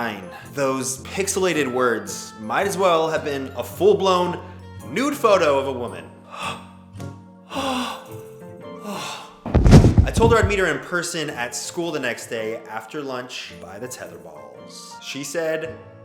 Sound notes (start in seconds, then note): 7.5 gasping and fainting